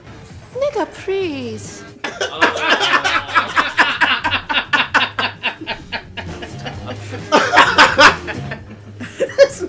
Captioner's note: everyone laughs